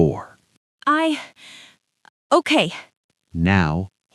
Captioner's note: inhales deeply